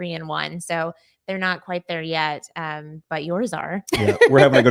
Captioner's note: laughing